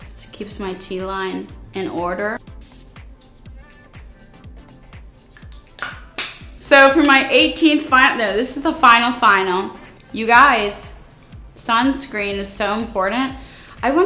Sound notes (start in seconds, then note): 2.8 mist spraying; 4.6 soft music